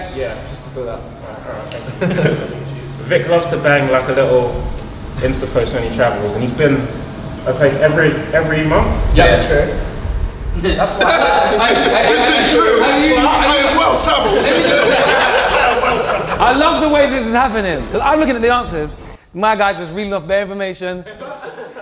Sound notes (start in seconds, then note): 14.6 group laughs